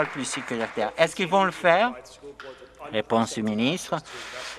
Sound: some Applause

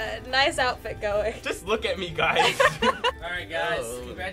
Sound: laughter

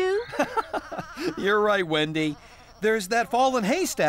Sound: chuckling

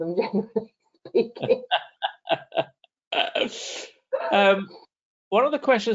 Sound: laughing

